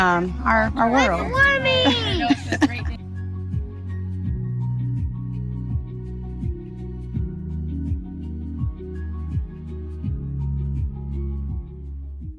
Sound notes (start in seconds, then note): 1.8 laughter